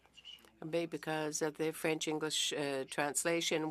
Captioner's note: speaking French